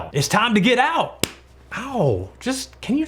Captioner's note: smacks